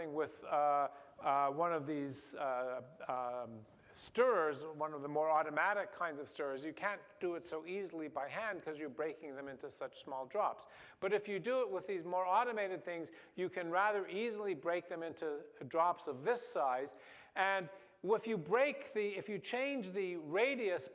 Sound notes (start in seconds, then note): none